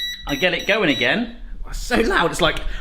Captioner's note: beeping